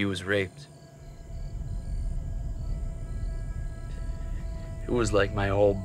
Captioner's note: crickets chirping; tense music